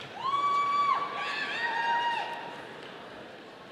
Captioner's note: audience cheering